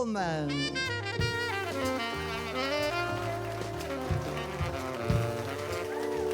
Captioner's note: cheers and applause